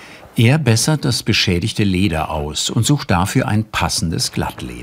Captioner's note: none